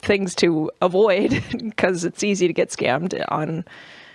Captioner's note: laughs